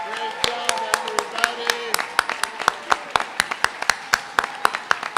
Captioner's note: applause, cheering